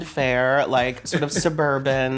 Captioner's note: chuckles